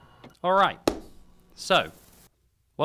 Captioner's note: aggressive clap